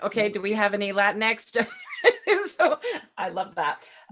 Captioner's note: laughing